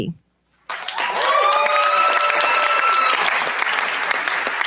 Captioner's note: cheers, applause